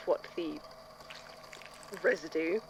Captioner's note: squelching noise